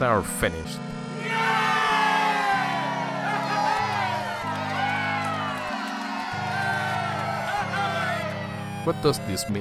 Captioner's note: applauses and yays!